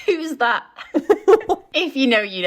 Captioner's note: laughing